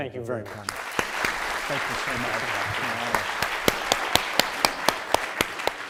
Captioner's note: audience applauding